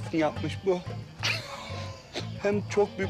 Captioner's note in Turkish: Gülme sesi